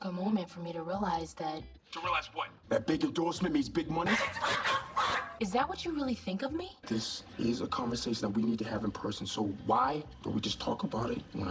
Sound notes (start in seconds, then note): 4.0 laughing